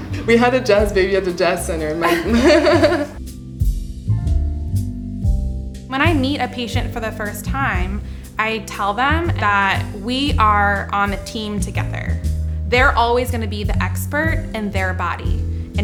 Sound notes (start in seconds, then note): 2.0 laughing; 3.4 cool jazz music